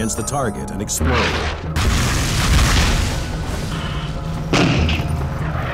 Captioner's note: explosions booming